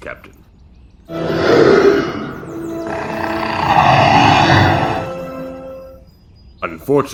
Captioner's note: beast roar